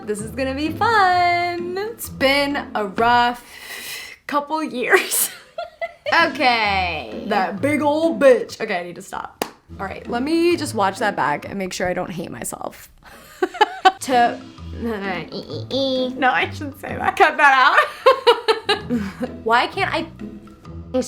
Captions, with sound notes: This is gonna be fun. It's been a rough couple years. (laughs) Okay. That big old bitch! Okay, I need to stop. All right, let me just watch that back and make sure I don't hate myself. (laughs) To. (laughs) No, I shouldn't say that. Cut that out. (laughs) Why can't I speak?